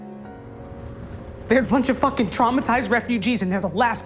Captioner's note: voiceover; shouting